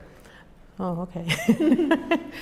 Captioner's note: laughs